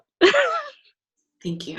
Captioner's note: laughing